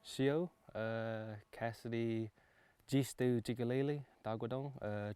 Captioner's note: man speaking in foreign language